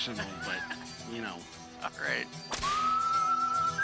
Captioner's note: chuckling; whip cracking, Western music playing